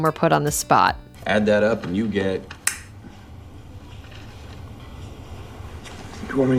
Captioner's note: snap